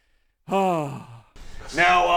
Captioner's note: smug sigh